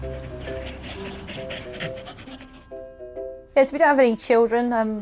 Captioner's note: Loki panting